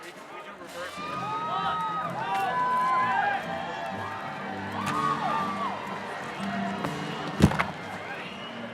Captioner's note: shouts and cheering